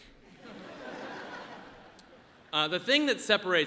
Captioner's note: audience laughs